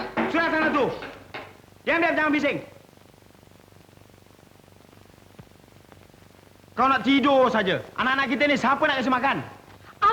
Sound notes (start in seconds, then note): 0.1 Husband speaks sternly to his family in Malay; 1.8 speaking Malay; 6.5 speaking Malay; 9.9 wife responds angrily in Malay